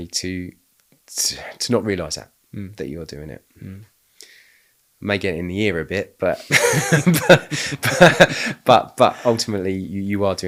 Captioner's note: laughing